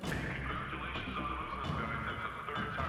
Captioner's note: loudspeaker